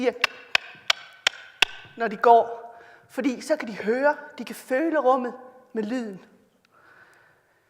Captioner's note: click sounds